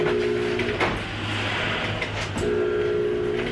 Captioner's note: door buzzing